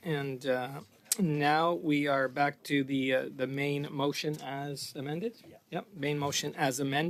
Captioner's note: speaking French